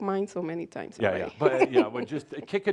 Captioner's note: she chuckles